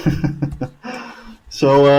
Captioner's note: laughing